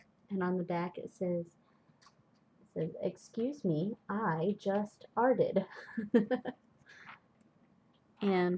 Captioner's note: laughs